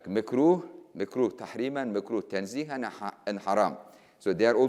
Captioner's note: speaking in foreign language